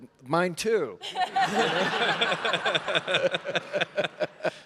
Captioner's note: all laughing